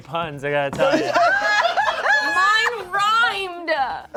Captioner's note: cast laughs